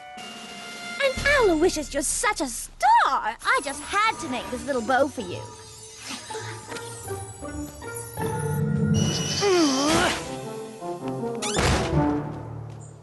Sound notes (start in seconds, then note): 8.9 whistle!; 11.5 slam!